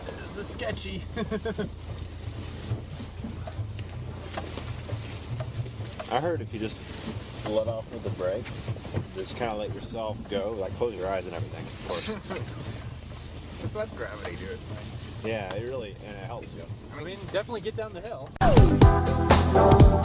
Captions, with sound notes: this is sketchy (nervous laugh) I heard if you just let off of the break and just kinda let yourself go, you know, close your eyes and everything of course . . and it helps just let gravity do it's thing you'd definitely get down the hill